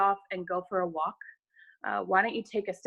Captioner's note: none